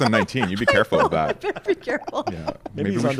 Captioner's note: laughs